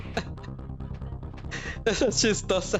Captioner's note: laughter